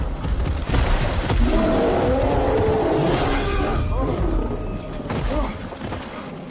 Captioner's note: thunder rumbling